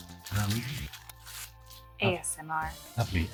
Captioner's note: plastic crunching